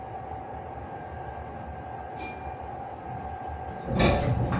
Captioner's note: chime